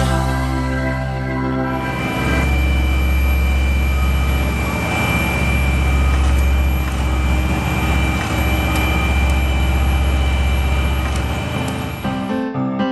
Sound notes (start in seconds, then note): 1.8 truck sounds